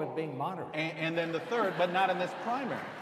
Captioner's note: laughing